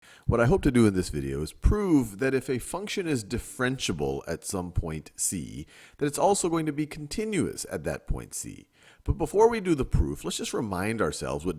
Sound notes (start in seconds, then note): 0.3 voiceover